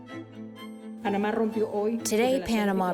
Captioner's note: speaking Spanish